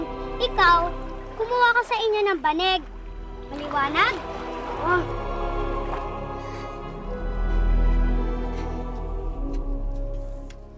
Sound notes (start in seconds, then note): 8.4 panting